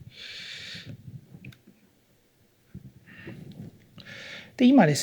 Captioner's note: silence